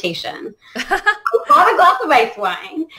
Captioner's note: laughter